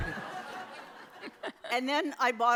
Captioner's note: audience laughs